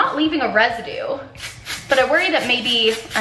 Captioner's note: spray splats